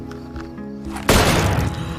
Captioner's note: gunshot